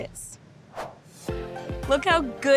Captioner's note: screen whooshing